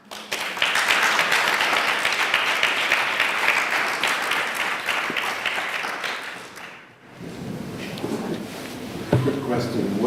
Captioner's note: applause